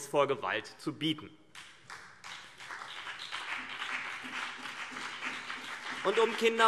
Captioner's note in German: Beifall CDU und BÜNDNIS 90/DIE GRÜNEN